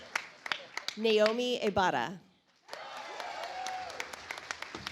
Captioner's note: audience applauds